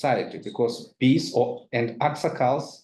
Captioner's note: speaks in foreign language